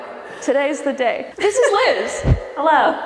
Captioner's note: words whooshing